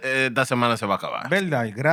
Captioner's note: speaking Spanish